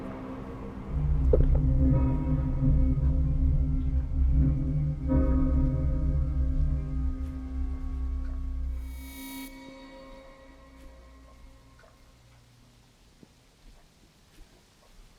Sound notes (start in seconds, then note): 1.4 Arawn swallows; 3.7 rain pattering